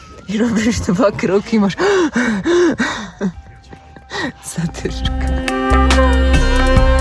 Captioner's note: heavy breathing